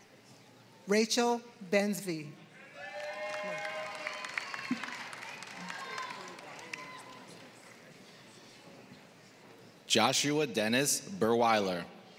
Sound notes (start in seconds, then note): 0.0 applause